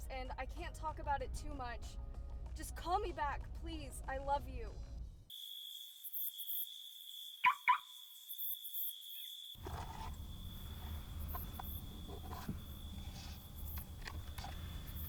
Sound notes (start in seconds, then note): 5.5 crickets chirp; 7.4 car alarm chirps; 12.0 box lid scrapes